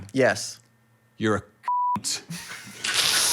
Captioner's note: beep